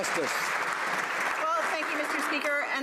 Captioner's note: some Applause